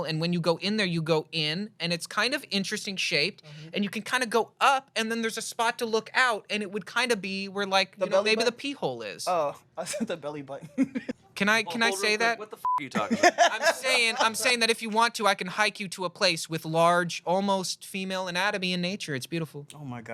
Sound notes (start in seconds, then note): 9.8 laughs; 12.6 beep